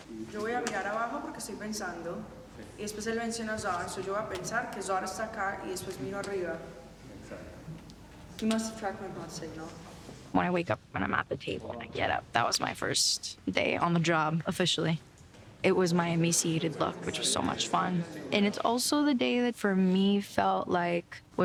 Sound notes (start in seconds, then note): 0.1 speaking Spanish; 8.4 in English